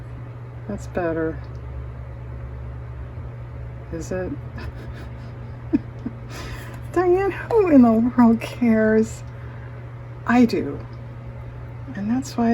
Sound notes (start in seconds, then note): 4.5 laughs